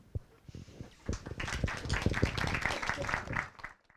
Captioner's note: applause